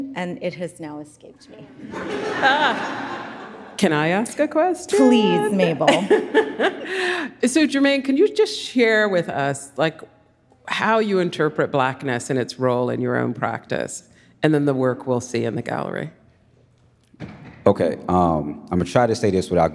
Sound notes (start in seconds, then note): 1.7 audience laughs; 4.9 laughs